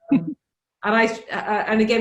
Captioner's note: laughs